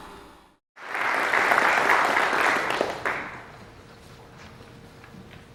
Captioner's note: audience applauding